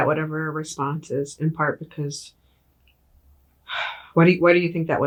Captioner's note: sighs